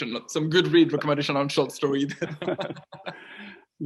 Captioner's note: laughs